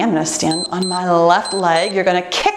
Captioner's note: timer beeps